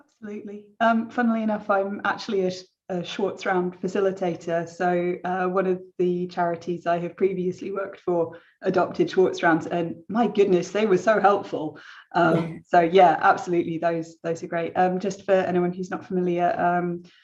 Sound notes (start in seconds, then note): 12.3 chuckles